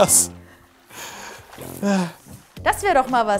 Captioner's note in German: Seufzer